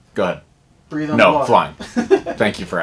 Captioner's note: laughter